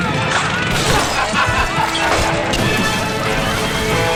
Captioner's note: The sound of Skulls steel-clad knuckles shattering a raider's jaw like glass